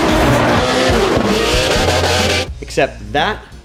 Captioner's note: engines revving